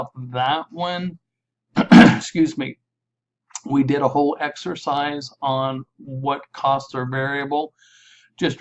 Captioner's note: cleared my throat